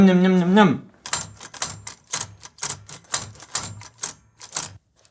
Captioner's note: marbles gates ringing